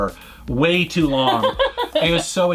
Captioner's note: laughs